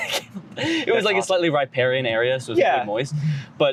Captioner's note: confused laughter